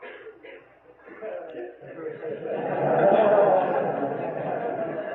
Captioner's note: devotees laugh